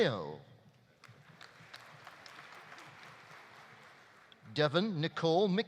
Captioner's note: audience applauding